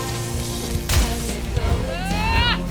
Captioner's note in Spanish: impacto